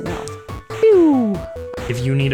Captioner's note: pew!